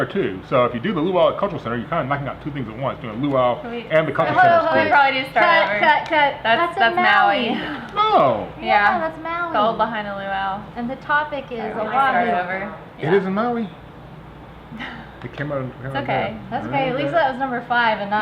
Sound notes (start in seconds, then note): 14.7 giggling